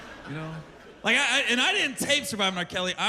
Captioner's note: laughter